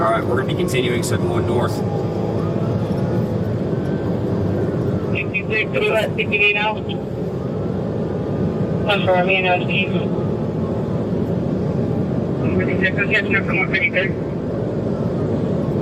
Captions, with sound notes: Alright, we're gonna be continuing 71 north. [radio] [radio] [radio]